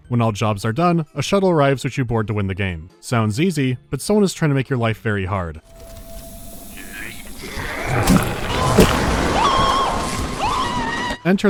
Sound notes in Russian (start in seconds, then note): 7.4 чудовищное бурчание; 8.4 крик